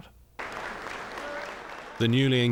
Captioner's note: people applauding